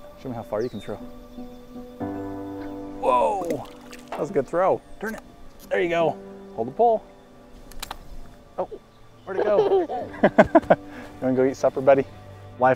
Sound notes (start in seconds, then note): 3.0 water splashes; 9.2 laughs